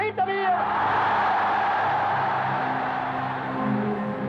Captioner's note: cheering